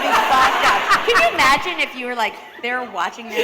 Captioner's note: laughter